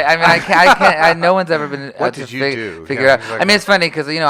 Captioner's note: mock serious